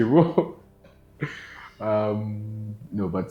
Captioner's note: still laughing